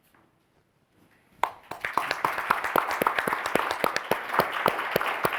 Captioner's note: audience applauding